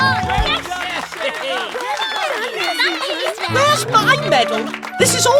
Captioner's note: applause; excited Chatter